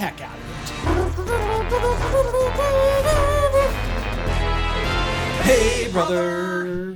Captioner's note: intro Theme Music; phoneticizing like a trumpet